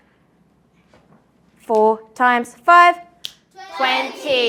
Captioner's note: clicks fingers